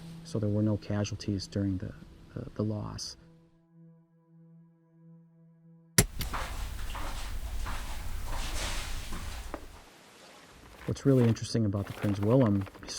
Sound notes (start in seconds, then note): 6.0 light clicking on; 6.0 footsteps approaching